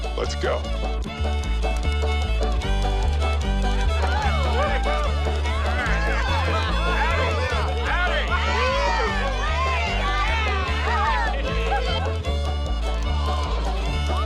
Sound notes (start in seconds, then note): 0.0 bouncy folk music; 4.8 crowd cheering